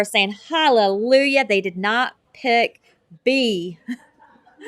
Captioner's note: laughter